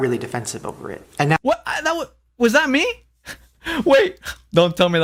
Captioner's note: laughs